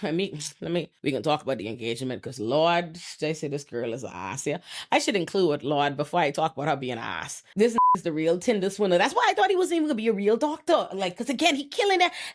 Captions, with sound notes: Let me, let me, we can talk about the engagement cause Lord, they say this girl is a ass here. I should include with Lord before I talk about her being ass. This (beep) is the real tinder swinner. That's why I thought he was even gonna be a real doctor. Like, cause again, he killing it.